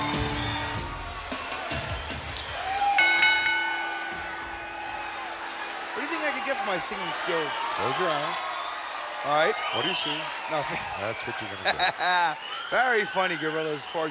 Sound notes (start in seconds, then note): 0.0 upbeat music; 2.9 bell ringing